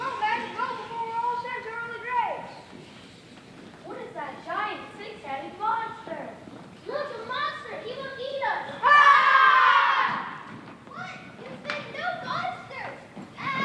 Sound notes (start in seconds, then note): 8.7 sailors yelling